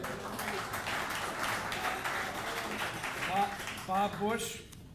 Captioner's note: audience applauding